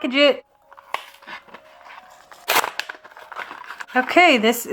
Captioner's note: unsatisfying ASMR sounds